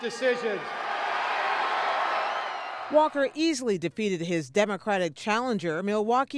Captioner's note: cheering and applause